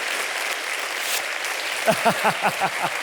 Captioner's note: audience applauding; paper swishing; laughing